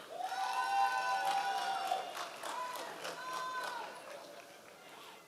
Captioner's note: members of the audience cheering